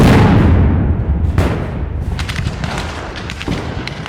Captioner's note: guns fire